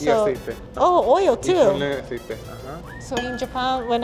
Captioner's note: speaking Spanish